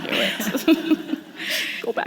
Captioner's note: laughter